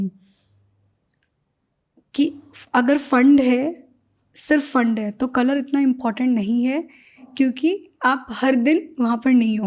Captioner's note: speaking in Hindi